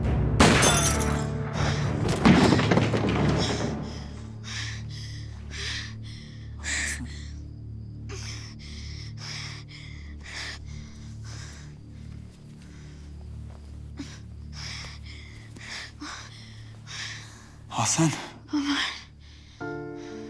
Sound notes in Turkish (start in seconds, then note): 1.6 Sandalye düşme sesi; 3.3 Nefes sesi; 8.0 Nefes sesi; 19.0 Müzik - Duygusal